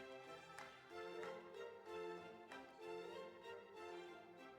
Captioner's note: audience applauds